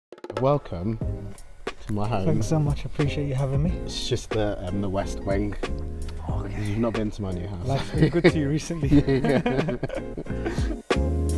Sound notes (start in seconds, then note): 7.7 laughter; 10.8 upbeat music